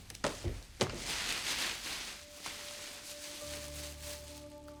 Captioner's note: bag rustling